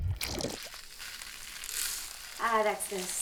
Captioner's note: rice rattling